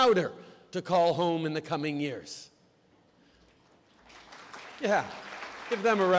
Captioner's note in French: Applaudissements